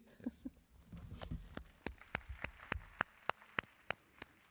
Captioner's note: applause